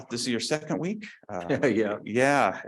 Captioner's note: laughs